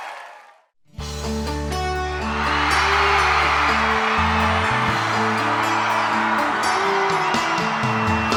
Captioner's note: applause